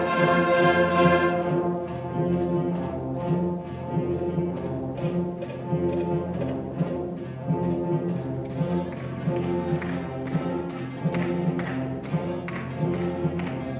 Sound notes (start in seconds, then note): 0.2 dramatic orchestral music; 10.2 rhythmic clapping